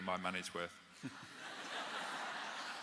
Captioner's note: laughter